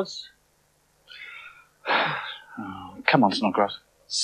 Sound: Toby Sighs

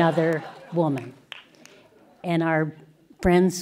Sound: laughter

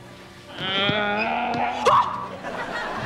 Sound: groaning; screaming

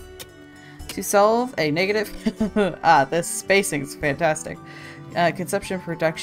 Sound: laughs

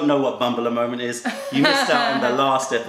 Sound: laughter

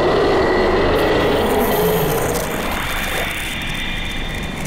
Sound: crackling

